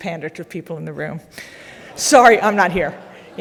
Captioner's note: audience laughing